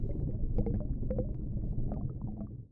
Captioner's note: underwater sounds